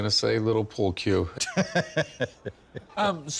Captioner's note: laughs